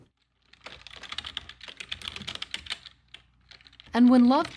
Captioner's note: computer keys clack